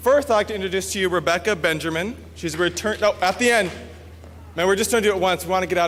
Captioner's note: at the end...someone trying to applause